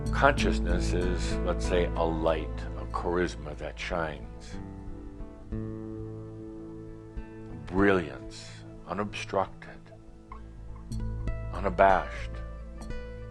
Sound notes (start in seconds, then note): none